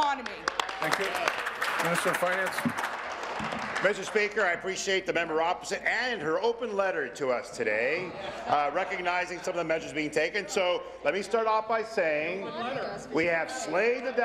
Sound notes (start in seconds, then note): 3.5 applause